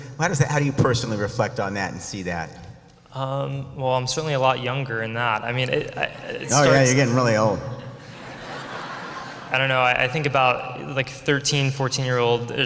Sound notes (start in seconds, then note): 7.7 ha ha ha